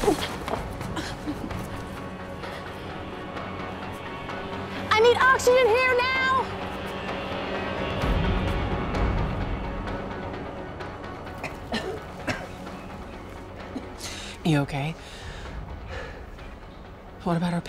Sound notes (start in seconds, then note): 11.2 coughing; 15.0 breathing heavily